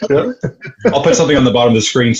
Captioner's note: laughter